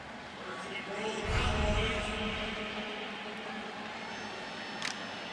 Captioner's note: pa announcement